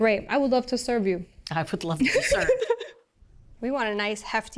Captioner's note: laughs